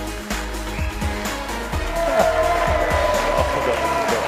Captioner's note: cheers, applause